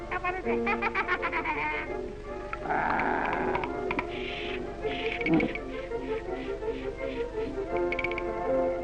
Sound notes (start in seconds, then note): 0.1 laughing; 2.6 growling